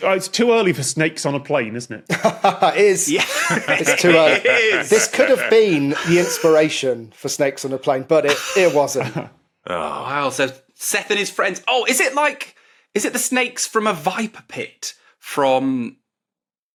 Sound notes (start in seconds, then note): 2.1 laugh; 2.1 laughs